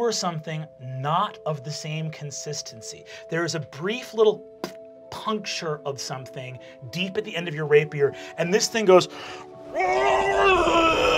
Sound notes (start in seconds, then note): 4.2 pops; 9.7 monstrous yelling